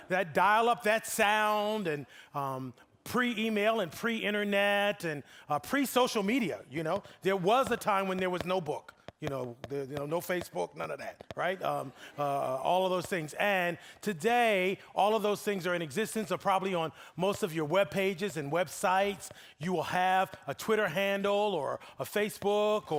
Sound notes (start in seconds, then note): 11.5 audience laughing